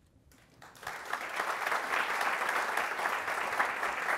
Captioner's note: audience applauding